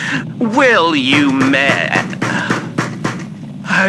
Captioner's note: banging on door fx